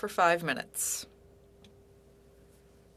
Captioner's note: speaking French